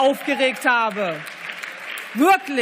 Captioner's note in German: Beifall